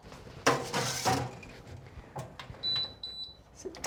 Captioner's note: toaster beeping